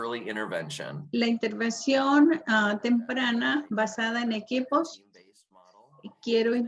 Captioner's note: woman speaks foreign language